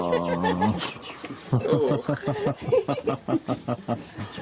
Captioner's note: laughter